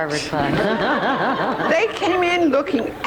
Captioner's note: audience laughs